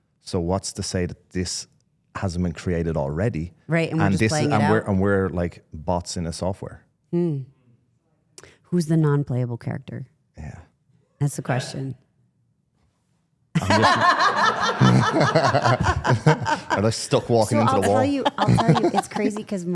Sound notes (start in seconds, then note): 13.5 participants laugh